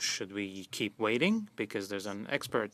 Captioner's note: speaking French